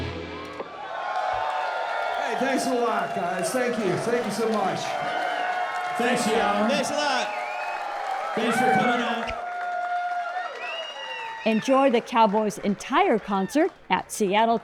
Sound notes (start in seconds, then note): 0.1 crowd cheering and applause; 9.6 crowd cheering and applause